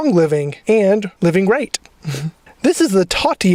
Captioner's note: giggles